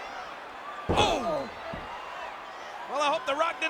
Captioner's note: Undertaker thuds